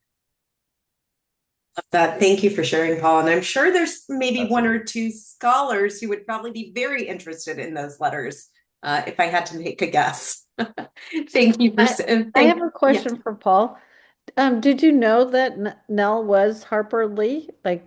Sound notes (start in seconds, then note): 10.6 chuckles